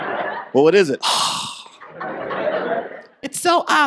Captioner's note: sighs